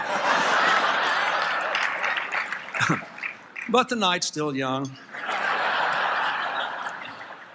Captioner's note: applause, Laughter; laughter